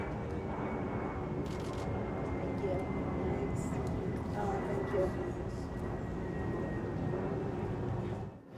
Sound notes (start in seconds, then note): 1.5 camera clicks